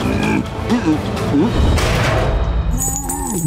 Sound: grunting; thudding; grunting

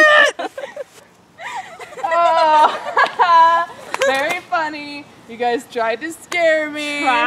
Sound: laughing

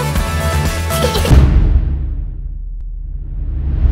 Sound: laughter

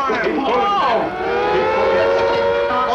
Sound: sirens blare

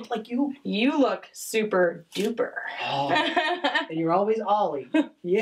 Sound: laughs

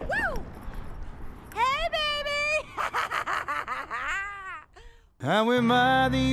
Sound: laughs

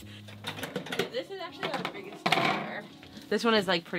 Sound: faintly speaking

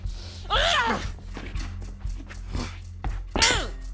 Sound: yells

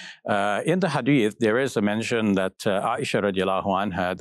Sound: foreign language

